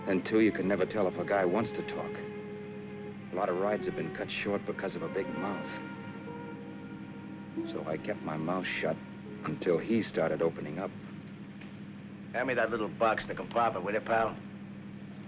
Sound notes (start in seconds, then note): none